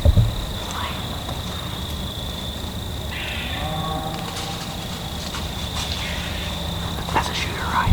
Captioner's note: whispering